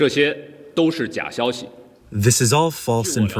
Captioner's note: through translator